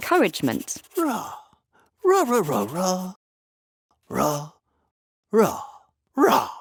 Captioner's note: Paul roaring gently